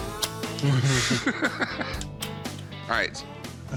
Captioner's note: laughter